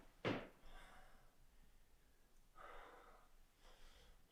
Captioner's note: Jacob panting